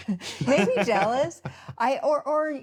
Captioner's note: laughs